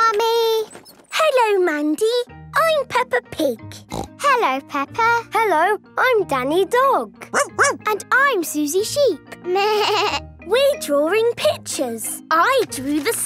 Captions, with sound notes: - Hello, Mandy. I'm Peppa Pig. (snorting) - Hello, Peppa. - Hello. I'm Danny Dog. (barking) - And I'm Suzy Sheep. (bleating) - We're drawing pictures. I drew the sun.